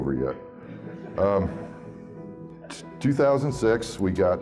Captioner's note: audience laughing